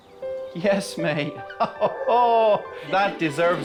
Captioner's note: laughs